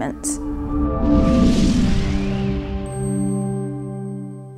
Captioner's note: logo whooshing